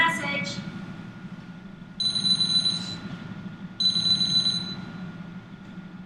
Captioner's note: phone ringing